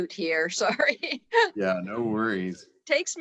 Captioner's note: laughs